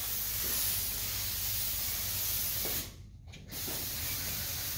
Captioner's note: sprayer spraying